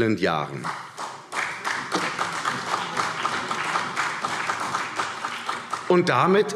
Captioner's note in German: Beifall CDU